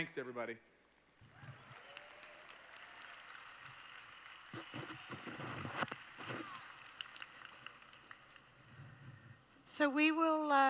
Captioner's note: applause